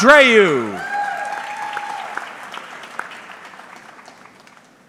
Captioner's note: audience clapping